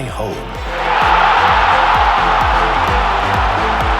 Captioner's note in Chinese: 人群欢呼